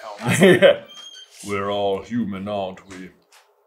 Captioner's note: deep and slow